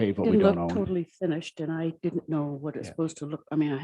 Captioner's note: murmurs